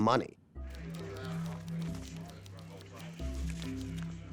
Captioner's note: typewriter clacking, people chatting